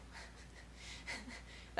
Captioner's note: laughing